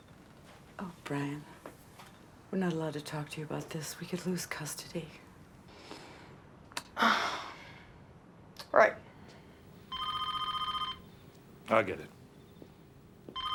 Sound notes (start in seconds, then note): 5.7 breathes deeply; 9.8 telephone rings